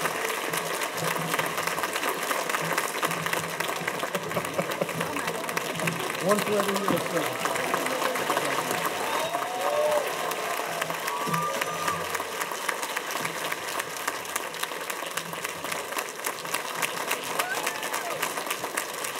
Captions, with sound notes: (chuckles) One for every year of service. (cheers and applause)